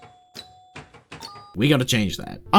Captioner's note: flip-Flip-Plink